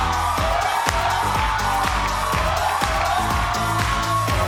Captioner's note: audience cheers